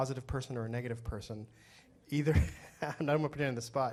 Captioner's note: laughs